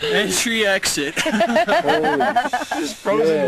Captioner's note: laughter